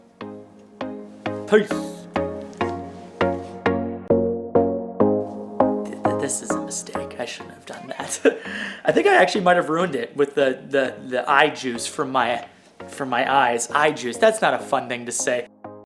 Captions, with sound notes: peace. (electronic music) This is a mistake. I shouldn't have done that. (laughing) I think I actually might have ruined it with the eye juice from my eyes. Eye juice, that's not a fun thing to say.